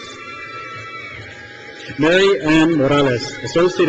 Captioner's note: crowd cheers